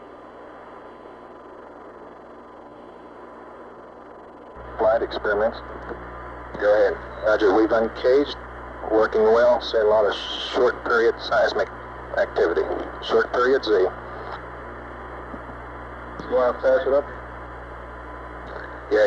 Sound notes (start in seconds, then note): 4.9 mission Control Audio